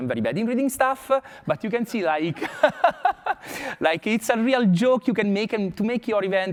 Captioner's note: laughs